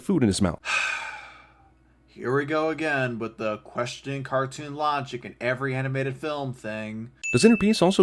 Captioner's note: sigh